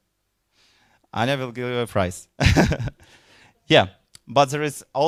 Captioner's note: chuckling